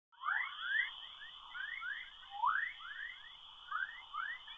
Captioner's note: whistling